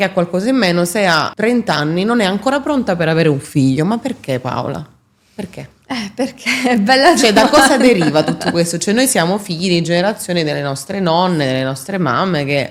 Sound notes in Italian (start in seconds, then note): 7.1 risate